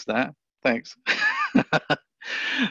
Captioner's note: laughs